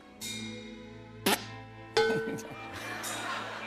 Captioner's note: spits; tin clangs